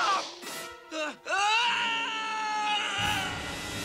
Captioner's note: screaming